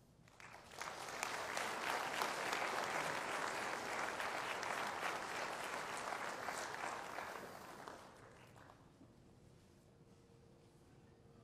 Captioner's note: applause